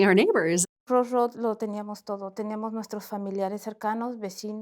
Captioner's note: speaking Spanish